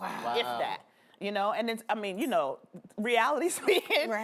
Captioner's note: laughter